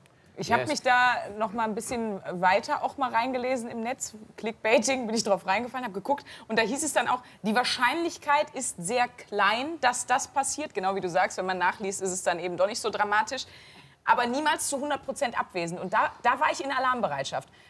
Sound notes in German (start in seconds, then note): none